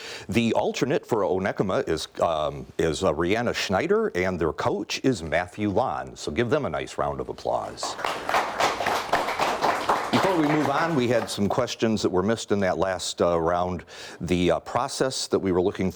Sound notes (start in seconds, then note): 7.7 audience clapping